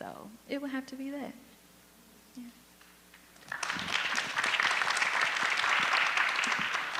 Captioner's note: audience applause